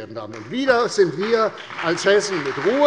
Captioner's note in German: Beifall bei der CDU und dem BÜNDNIS 90/DIE GRÜNEN sowie bei Abgeordneten der SPD